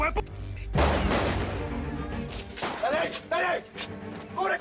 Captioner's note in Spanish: Disparos